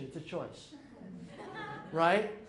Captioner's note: audience laughing